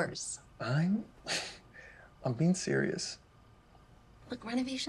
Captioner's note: chuckles